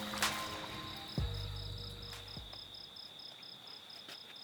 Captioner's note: crickets chirping